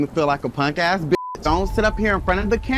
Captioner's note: beep